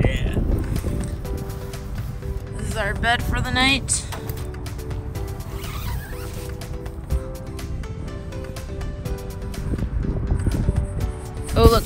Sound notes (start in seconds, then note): 5.3 tent zipping; 8.0 upbeat techno music